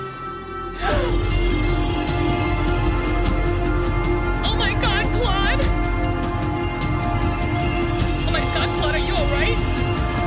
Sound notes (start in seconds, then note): 0.8 gasp; 2.0 dramatic music